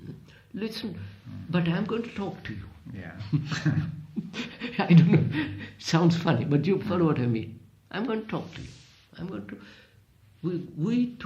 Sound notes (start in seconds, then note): 3.1 laughs